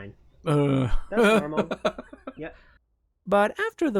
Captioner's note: laughs